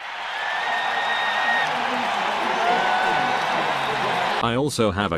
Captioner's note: applause